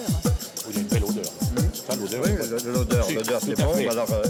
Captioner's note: speaks foreign language